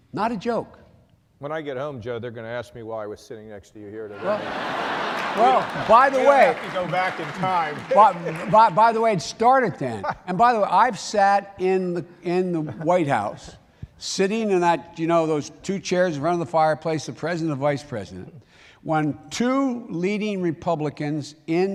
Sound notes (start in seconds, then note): 4.1 laughter